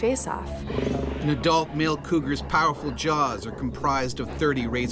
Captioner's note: voiceover